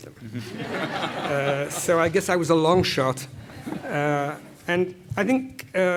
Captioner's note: laugh